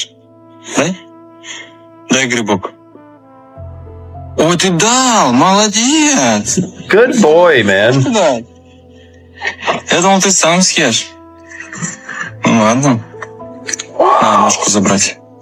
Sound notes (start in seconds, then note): 4.6 russian dialogue; 9.7 russian dialogue continues